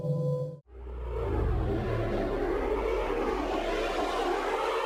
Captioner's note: air rushing